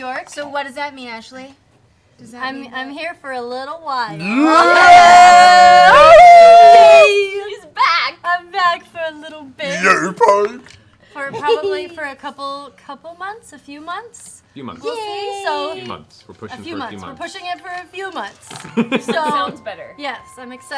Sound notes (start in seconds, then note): 4.2 cheering